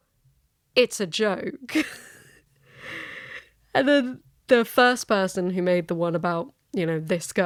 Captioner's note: laughs